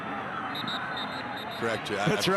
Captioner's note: referee blows whistle